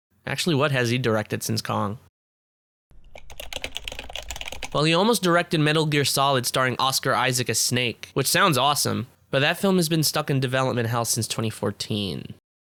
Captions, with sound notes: Actually, what has he directed since Kong? [Keyboard clacking] Well, he almost directed Metal Gear Solid, starring Oscar Isaac as Snake, which sounds awesome, but that film has been stuck in development house since 2014.